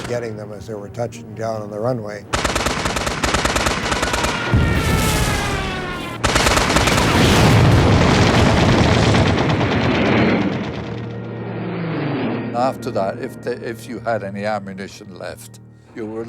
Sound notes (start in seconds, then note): 2.7 gun firing; 4.6 aircraft explodes; 6.4 gun firing; 8.8 aircraft explodes; 12.0 jet engine roaring